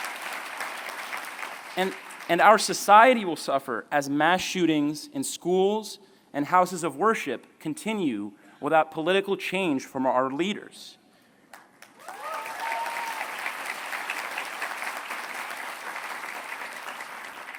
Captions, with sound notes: And our society will suffer as mass shootings in schools and houses of worship continue without political change from our leaders. [CHEERING]